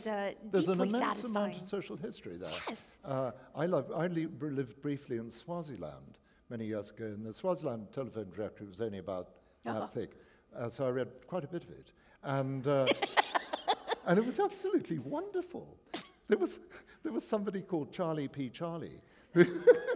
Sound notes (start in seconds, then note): 12.8 laughter; 19.3 laughter